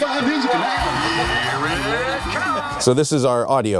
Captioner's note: everybody shouting